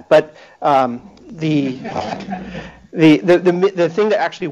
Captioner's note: laughter